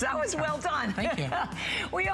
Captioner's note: laughter